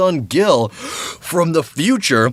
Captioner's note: gasp